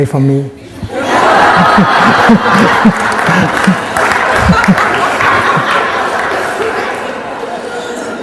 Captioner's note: laughter and clapping